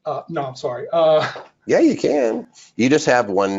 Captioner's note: laughs